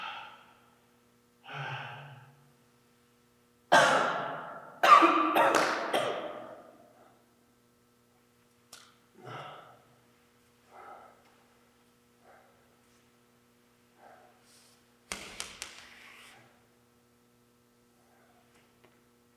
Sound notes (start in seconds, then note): 3.7 Jacob coughing; 15.4 ball thudding